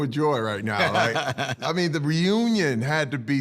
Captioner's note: Henry laughs